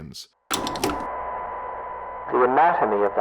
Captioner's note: tape deck turns on